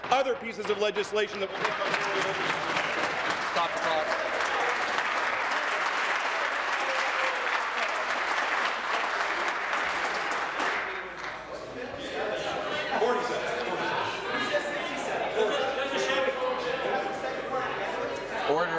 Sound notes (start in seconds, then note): 5.3 applause